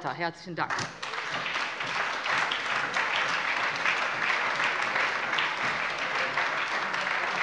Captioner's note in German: Anhaltender Beifall bei der SPD und der LINKEN